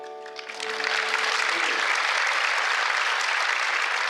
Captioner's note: applause